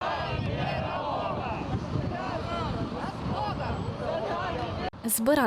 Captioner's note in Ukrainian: Кричать